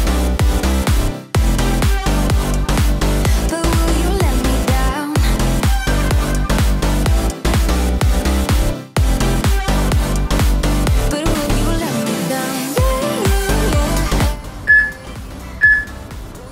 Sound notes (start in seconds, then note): 15.5 peep